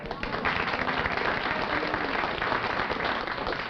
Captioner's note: applause